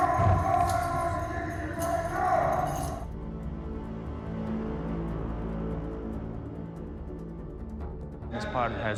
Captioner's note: yelling